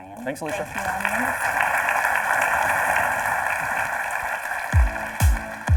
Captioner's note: audience applauding; upbeat music